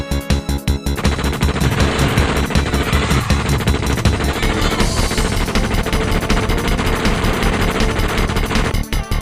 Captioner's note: upbeat Style Music; constant Machinegun Fire; upbeat Style Music